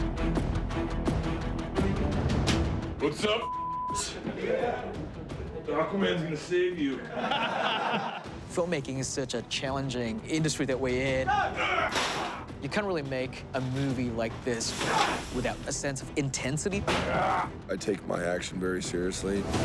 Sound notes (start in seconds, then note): 3.9 men chattering; 7.0 all laughing